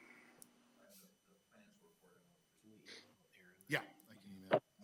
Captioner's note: speaking faintly